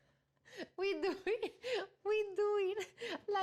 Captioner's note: laughs